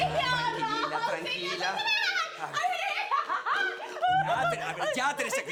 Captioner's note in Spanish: Gritos y exclamaciones